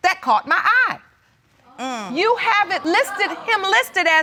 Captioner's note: audience gasps